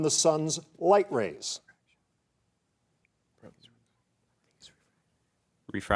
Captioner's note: contestants whispering